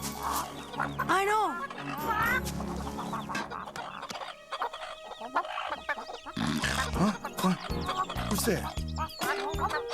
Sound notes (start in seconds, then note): 4.1 chickens clucking; 6.3 snorts